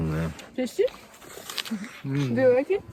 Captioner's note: Хруст